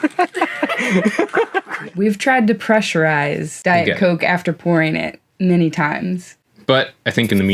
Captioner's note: laughing